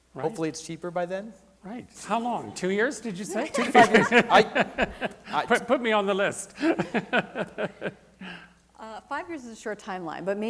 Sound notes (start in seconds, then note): 3.1 laughs